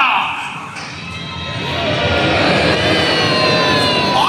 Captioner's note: everyone is cheering and booing the villain